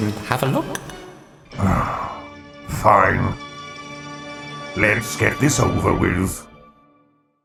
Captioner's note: sigh